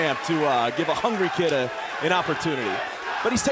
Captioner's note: crowd cheering